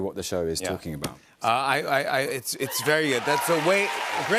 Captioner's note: cheers and applause